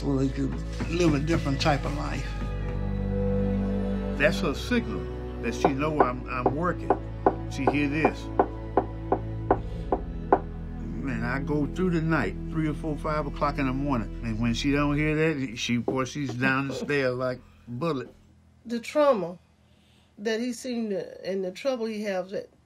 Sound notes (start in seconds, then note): 9.1 hand knocking